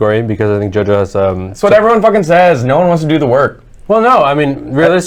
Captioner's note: exasperated